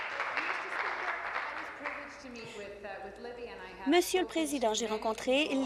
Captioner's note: applause